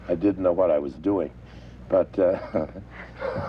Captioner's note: laughing